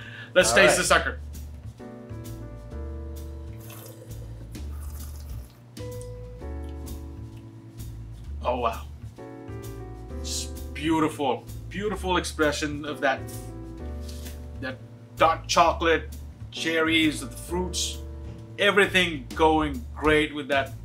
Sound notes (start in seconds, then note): 0.0 both laugh; 3.5 wine swishing